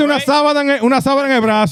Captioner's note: speaking In Foreign Language